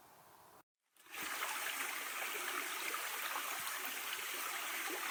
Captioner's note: creek flowing